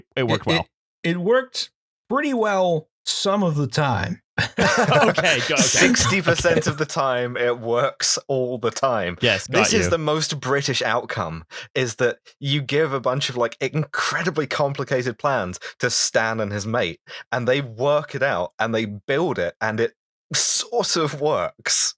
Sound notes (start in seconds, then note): 4.4 laughter